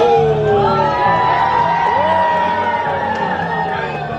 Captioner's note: all cheering